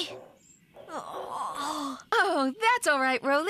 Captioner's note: yawns